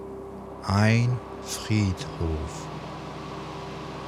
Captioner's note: german